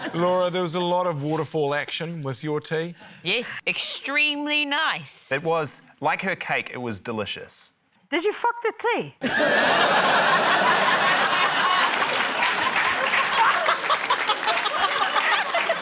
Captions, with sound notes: Laura, there was a lot of waterfall action with your tea. - Yes, extremely nice. - It was― Like her cake, it was delicious. - Did you fuck the tea? (LAUGHTER) (APPLAUSE)